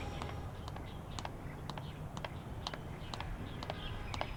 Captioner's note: footsteps